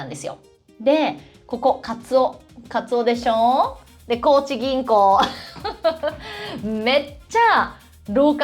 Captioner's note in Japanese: 笑い